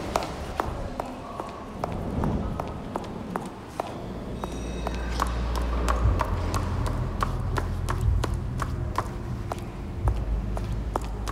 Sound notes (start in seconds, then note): 4.4 bell rings; 7.6 heels clinking